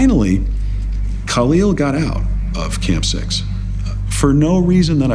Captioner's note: chuckling